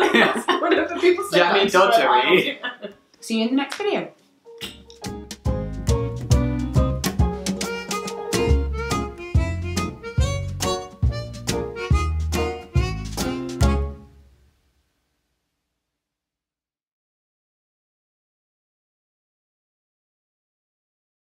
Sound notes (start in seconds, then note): 2.6 laughing; 4.6 smooching; 5.2 bright music